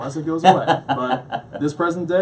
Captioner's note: laughs